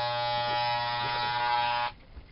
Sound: hair clippers

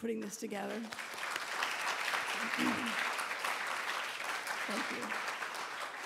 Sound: audience applauding

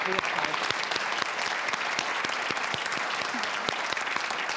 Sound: audience claps

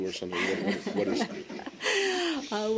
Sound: laughter

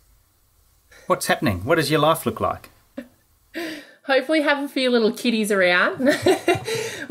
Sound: laughing

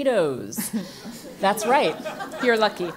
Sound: laugh

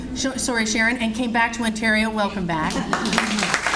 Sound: audience Applauds

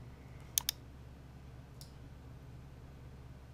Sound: mouse clicks

